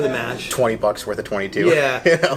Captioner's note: laughs